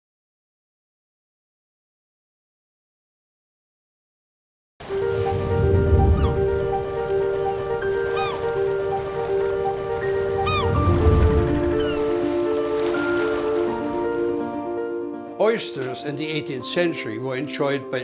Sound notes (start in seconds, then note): 5.5 gentle piano music; 5.5 seagull squeals; 9.9 water gurgles